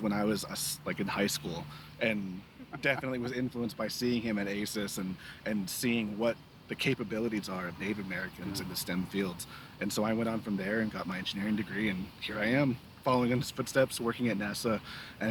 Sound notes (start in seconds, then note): 2.5 laughing